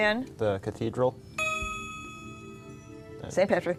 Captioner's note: ding